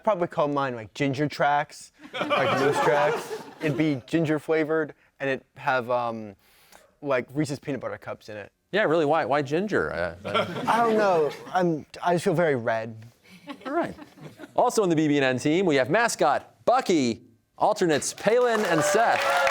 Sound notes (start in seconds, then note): 2.0 laughter